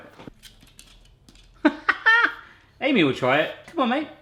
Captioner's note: laughing